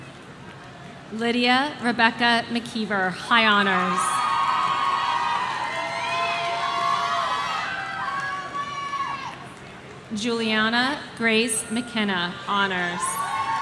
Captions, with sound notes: Lydia Rebecca McKeever, High Honors. (audience cheering) Juliana Grace McKenna, Honors.